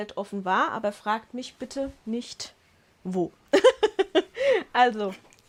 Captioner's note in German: Lachen